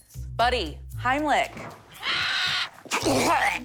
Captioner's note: bird screeches